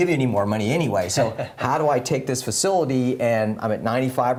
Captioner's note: laugh